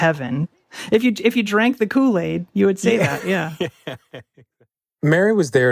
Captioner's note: laughs